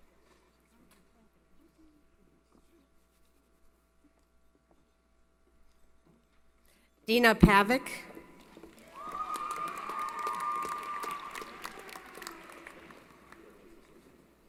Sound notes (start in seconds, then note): 8.7 applause & Cheering